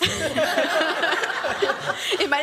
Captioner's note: laughter